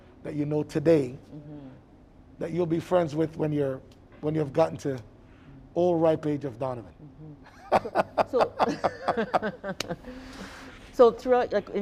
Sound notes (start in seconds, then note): 7.1 laughing